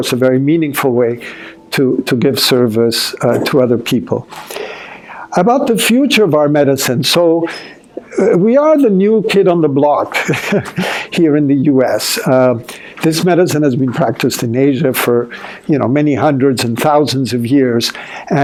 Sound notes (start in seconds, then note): 10.1 chuckling